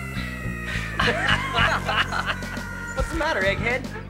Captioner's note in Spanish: reír